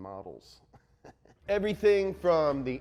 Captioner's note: laughs